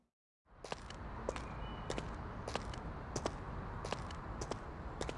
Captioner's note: footsteps clacking